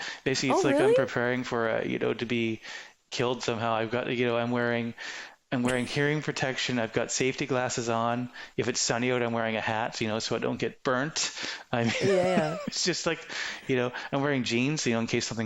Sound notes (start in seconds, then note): 11.8 laughing